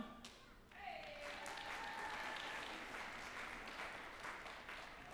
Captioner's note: group applauding